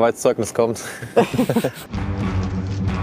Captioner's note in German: Lachen